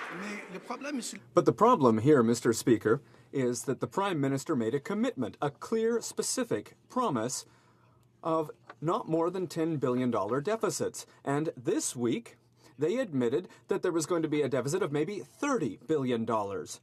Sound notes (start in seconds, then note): 3.7 speaking French